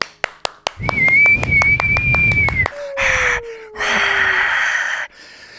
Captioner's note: claps and whistles